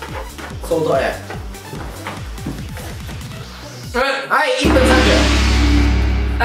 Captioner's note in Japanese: none